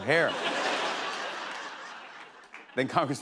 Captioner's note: laughter